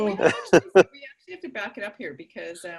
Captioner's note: laughter